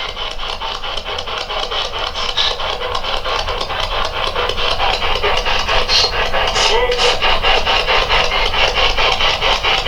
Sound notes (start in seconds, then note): 0.0 clicking; 1.1 static